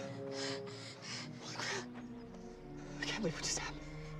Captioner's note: heavy breathing